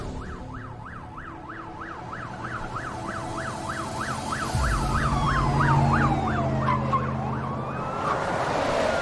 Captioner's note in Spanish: Sirena de policía